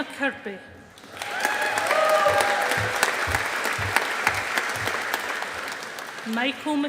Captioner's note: audience applauding